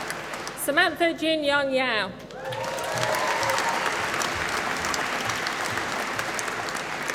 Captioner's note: applause